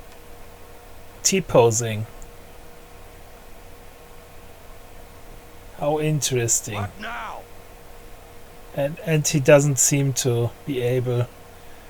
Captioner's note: man shouting: WHATNOW?